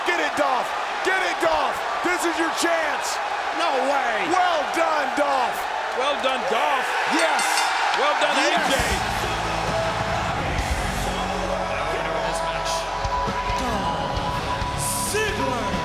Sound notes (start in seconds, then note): 7.1 bell chimes